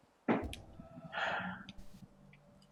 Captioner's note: sighs